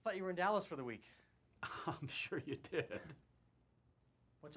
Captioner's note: chuckling